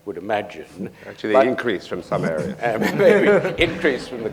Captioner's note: laughter